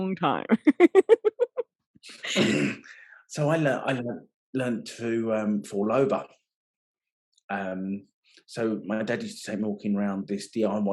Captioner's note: laughing